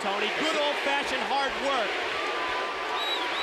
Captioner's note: crowd cheering